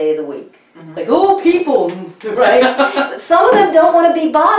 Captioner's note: laughs